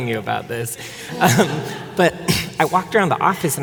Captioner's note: audience laughing